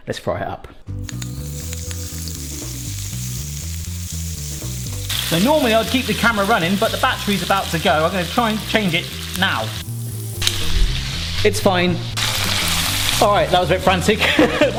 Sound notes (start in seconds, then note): 1.0 oil sizzling; 1.0 upbeat jazz music; 10.1 oil sizzling; 10.1 upbeat jazz music continues; 11.9 oil sizzling; 14.4 laughs